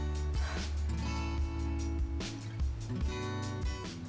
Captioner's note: slow guitar music; Fern sighs